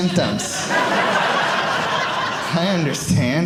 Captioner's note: audience laughing